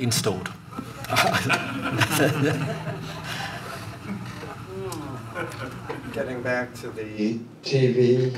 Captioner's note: laughter